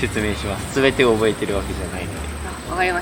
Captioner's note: laughs